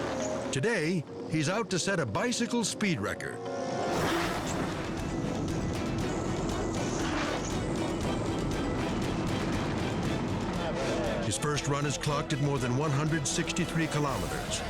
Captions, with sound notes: Today, he's out to set a bicycle speed record. (dramatic music continues) (tires rumbling) (dramatic music continues) His first run is clocked at more than 163 kilometers,